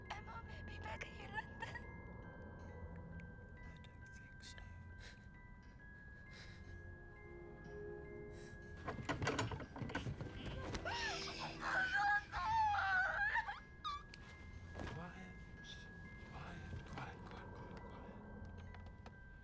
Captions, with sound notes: Aimo may be back in London. - I don't think so. (door rattles) (muffled screams) Shh, shh, shh. Quiet. Shh. Quiet, quiet, quiet, quiet, quiet.